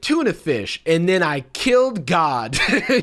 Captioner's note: laughs